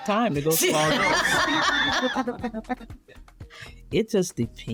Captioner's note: laughing